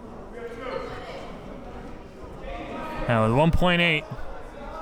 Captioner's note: players murmuring